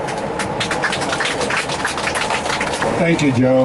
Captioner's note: applause